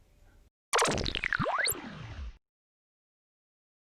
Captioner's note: powering down sound